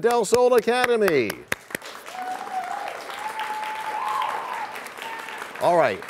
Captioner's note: cheers and applause